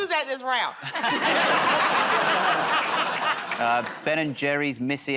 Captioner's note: laughter